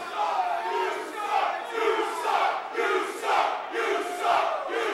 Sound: chanting "you suck!"

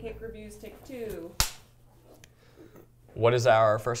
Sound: clapperboard clicks

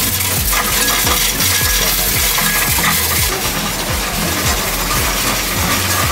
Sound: upbeat music; coins rattling

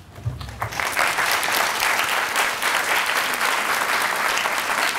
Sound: audience applauding

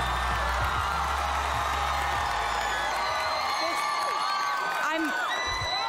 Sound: cheering

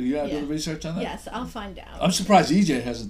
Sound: voiceover

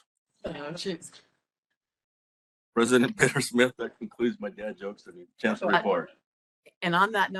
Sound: laughing

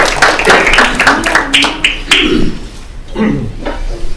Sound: attendees applauding

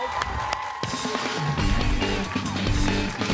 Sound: applause

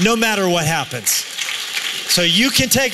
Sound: applause

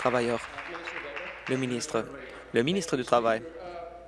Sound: applause

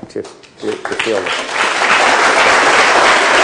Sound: applause

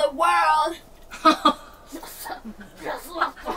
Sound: laughing

